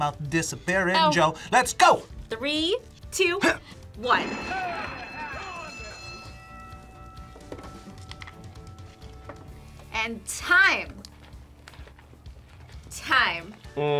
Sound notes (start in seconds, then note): 4.0 bell rings